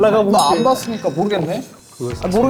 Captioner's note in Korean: 부글부글